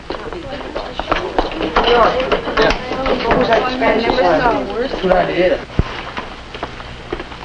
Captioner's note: students chattering